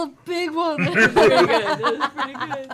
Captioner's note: laughter